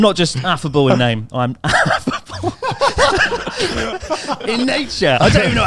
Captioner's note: chuckling